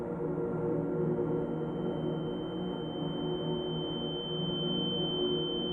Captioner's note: high-pitch ringing